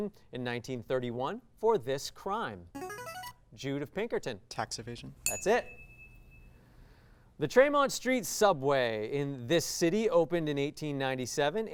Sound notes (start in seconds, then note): 2.7 signaling device tone; 5.2 ding